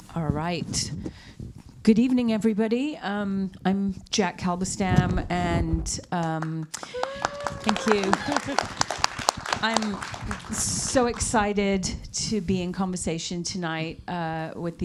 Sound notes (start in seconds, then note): 6.7 audience applauds